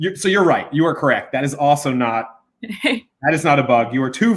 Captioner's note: chuckles